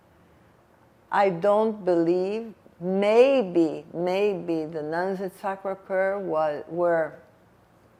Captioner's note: french